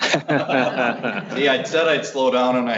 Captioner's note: laughter